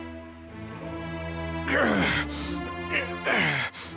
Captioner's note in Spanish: Gruñidos